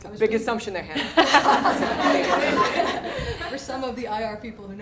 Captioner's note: laughter